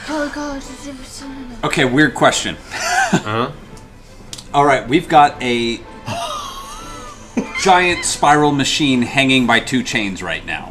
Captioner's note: laughs